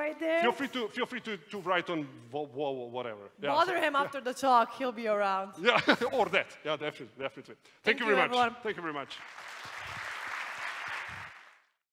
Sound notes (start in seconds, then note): 5.7 laughs; 8.8 applause